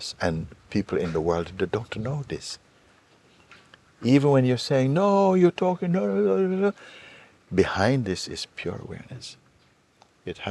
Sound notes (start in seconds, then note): 6.8 mimics loud voices